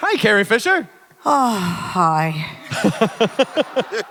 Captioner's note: overdramatic sigh; Hardwick et al laugh